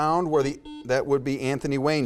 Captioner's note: buzzer beeps